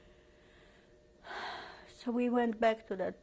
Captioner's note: sighs